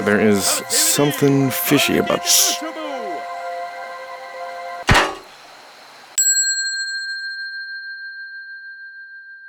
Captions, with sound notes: There is something fishy about- (soldier shushing) (armor clanking) (bell ringing)